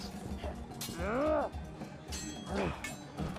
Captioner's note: swords clanging